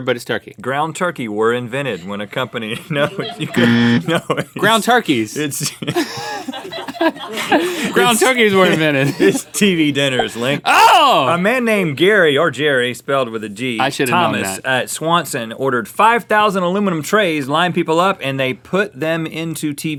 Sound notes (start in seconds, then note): 3.5 buzz; 3.6 laughs; 6.8 both laugh